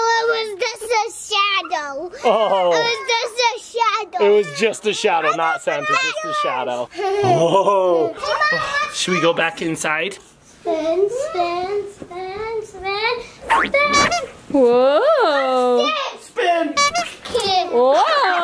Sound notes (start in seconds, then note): 6.9 child laughing; 13.9 horn beeping; 16.8 horn beeping; 16.8 child laughing